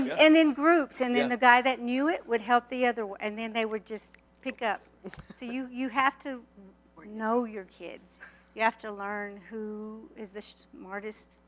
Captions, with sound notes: and then groups - Yup - and then the guy that knew it would help the other and then they would just [snap fingers] pick up. So you you have to know your kids. You have to learn who is the smartest